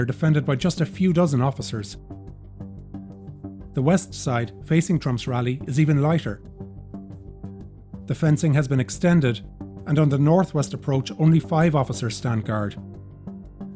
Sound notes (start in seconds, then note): none